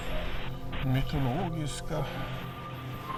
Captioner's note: static noise